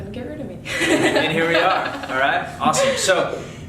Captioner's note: laughs